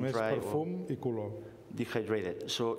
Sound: speaking catalan

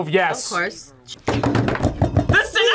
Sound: table rattling

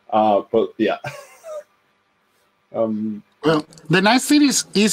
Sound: chuckles

